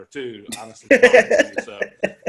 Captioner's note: laughs